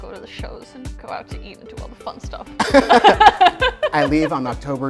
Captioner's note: laughing